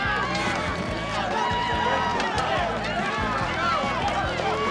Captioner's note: crowd cheering